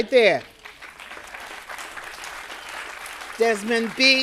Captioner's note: audience applauding